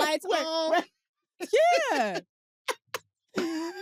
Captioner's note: laughs